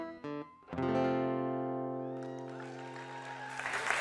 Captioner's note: cheers and applause